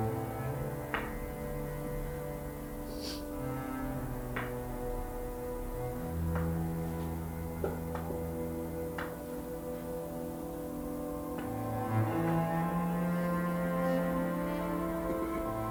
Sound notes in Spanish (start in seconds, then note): 2.9 resoplido